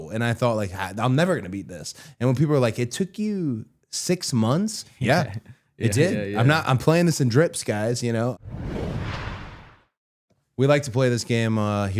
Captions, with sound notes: And I thought like, "I'm never gonna beat this." And when people were like, "It took you six months?" Yeah, it did. I'm playing this in drips, guys, you know. (graphic whooshing) We like to play this game